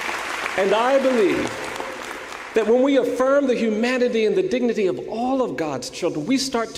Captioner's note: applause